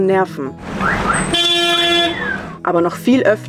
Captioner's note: loud honking